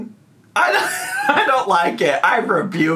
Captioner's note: laughs